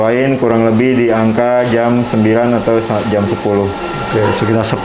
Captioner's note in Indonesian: suara mesin